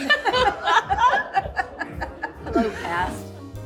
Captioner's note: all laughing